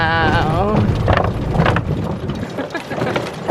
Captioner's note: wooden planks rattling; laughs